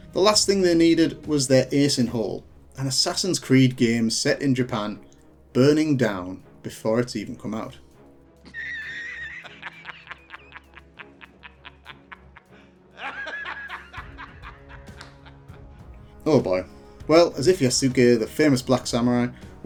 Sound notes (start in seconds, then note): 8.4 laughing